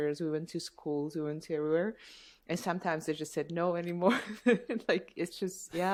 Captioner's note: laughter